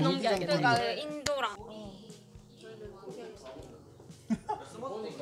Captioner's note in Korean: 웃음